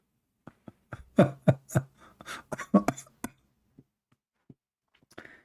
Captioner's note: Ketawa